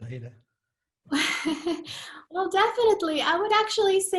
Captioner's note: chuckles